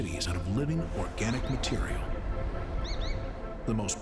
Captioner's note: bird chirping